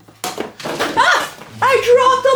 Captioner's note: aaaah